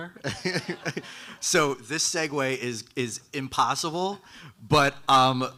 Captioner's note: laughing; audience laughing